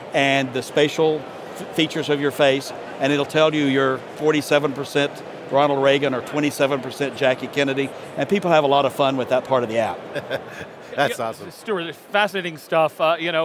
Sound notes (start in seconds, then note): 10.0 laughs